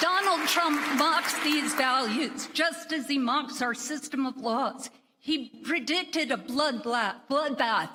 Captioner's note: applause